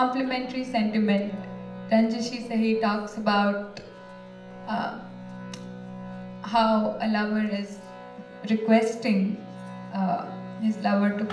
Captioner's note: non-english speech